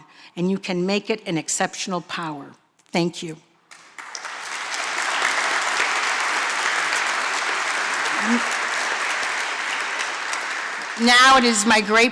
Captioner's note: applause